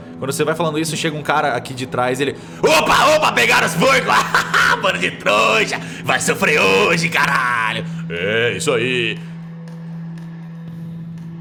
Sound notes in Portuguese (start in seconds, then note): 3.8 risada